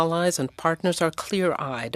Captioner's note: speaking French